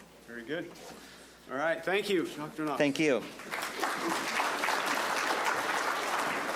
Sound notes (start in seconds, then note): 4.7 audience clapping